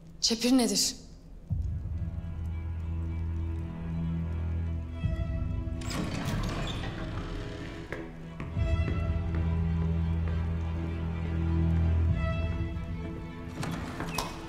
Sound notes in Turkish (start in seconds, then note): 5.7 Kapı açılma sesi; 7.0 Adım sesleri